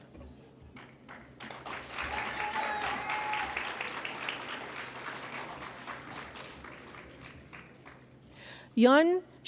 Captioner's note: applause